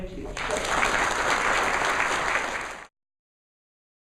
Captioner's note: audience applause